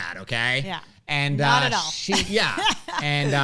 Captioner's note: laughs